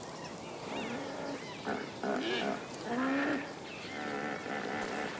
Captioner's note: hippos grunting